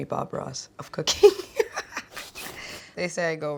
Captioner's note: laughs